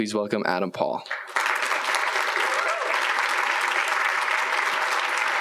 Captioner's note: applause